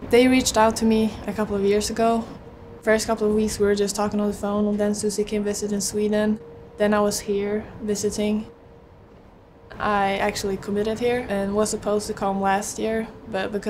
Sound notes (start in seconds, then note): none